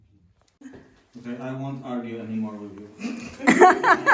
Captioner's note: laughs